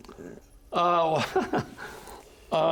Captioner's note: chuckling